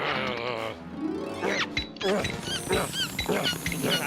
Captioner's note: panting; air hose squeaking